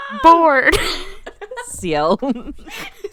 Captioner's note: both laughing